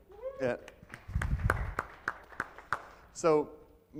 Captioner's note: audience claps